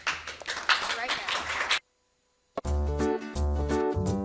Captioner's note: audience clapping; upbeat music